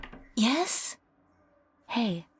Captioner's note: whispers